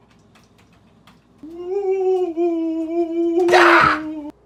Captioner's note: ghost noises